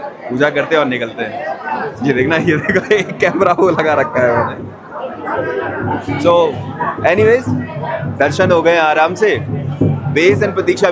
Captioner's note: chuckles